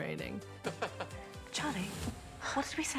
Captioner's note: chuckles